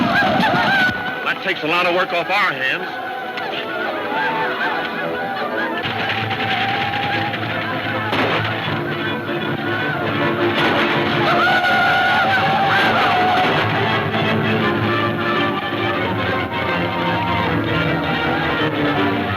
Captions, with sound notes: Well that takes a lotta work off our hands. (tense music) (gunfire pops)